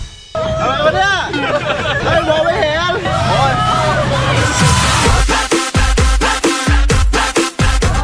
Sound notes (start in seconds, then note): 0.4 laughing; 4.7 Thai EDM music playing